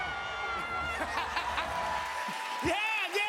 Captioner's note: laughter